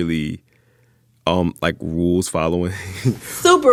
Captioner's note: laughter